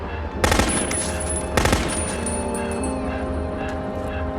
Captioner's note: machine gun firing